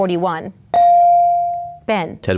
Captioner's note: bell dings